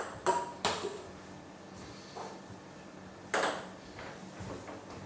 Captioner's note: balls ping pong hitting continues